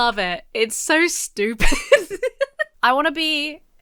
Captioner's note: laughs